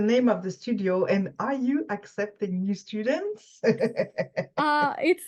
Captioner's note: laughs